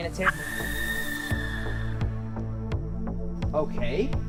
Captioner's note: scream in the distance